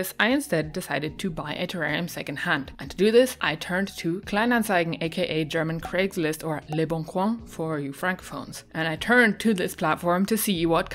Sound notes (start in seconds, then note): none